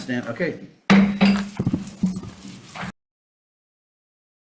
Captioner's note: gavel bangs